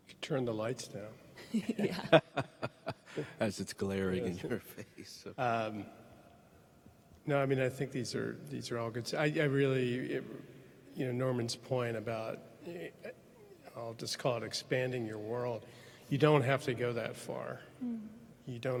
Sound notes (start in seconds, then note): 1.4 panelists laughing